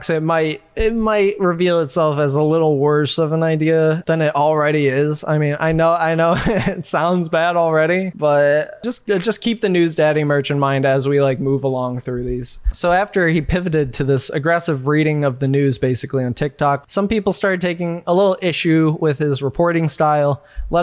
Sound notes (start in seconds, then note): 6.2 chuckles